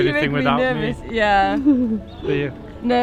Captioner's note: chuckles